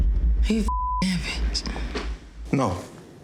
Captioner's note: beep